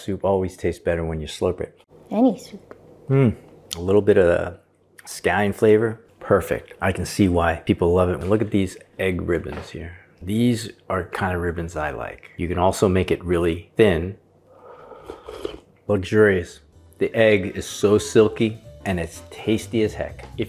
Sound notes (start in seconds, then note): 14.6 slurping